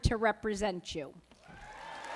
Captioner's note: applause